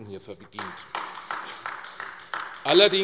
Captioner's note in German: Beifall AfD